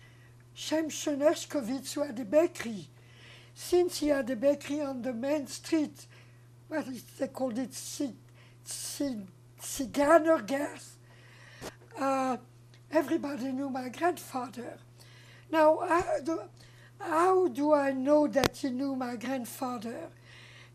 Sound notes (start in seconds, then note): 9.7 non-english